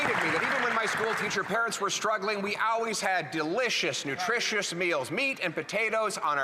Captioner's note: applause